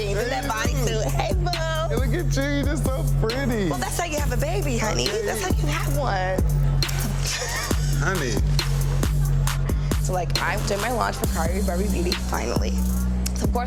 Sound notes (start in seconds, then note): 6.6 thumping dance music; 7.0 person laughs